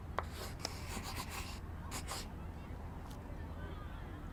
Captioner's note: pencil scratches